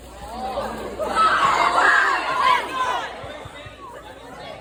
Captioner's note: audience screams in horror